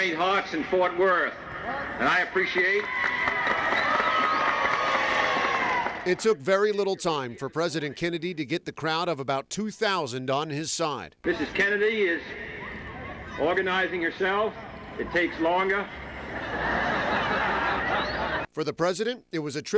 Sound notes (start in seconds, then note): 6.3 cheers; 16.2 laughter